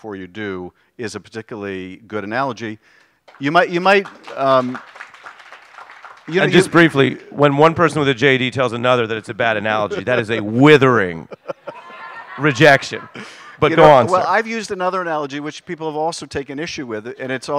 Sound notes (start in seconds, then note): 9.3 applause